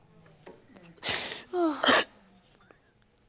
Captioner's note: crying